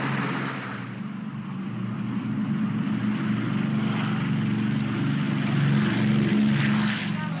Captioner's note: aircraft accelerates; aircraft rumbles